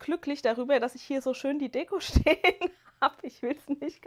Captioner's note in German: gelächter